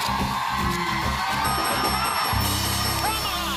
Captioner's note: dinging